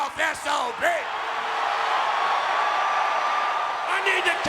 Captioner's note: audience cheering